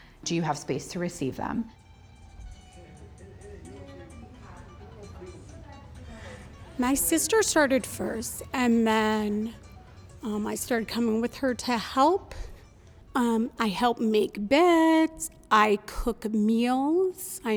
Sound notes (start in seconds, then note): 1.8 families chattering; 1.8 quiet guitar music